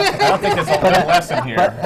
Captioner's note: laughter